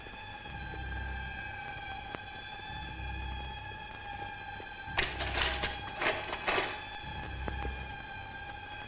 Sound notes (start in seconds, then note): 4.9 utensils clinking